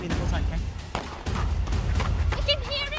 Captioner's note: gunshots blasting